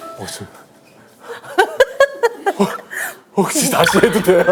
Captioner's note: hehehehe